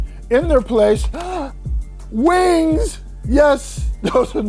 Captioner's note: gasps